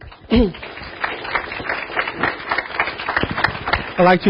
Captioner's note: audience applauding